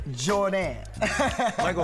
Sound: laughing lightly

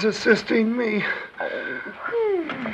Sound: groans

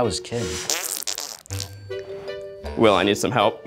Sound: makes farting sounds

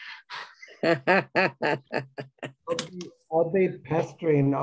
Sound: both laughing

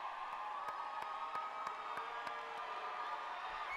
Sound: cheering; applause

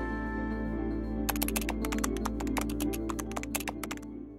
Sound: keyboard typing

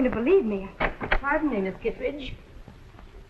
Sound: door opens

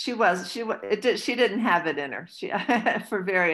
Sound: laughs

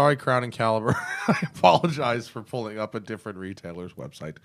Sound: laughter

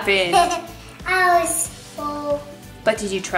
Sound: giggles

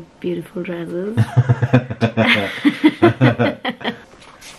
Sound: laughing

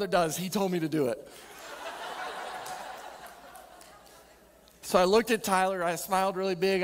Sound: audience laughing

